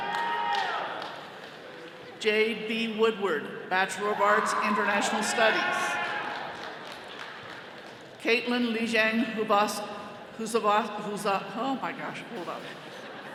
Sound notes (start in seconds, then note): 0.0 attendees cheering; 9.3 stammering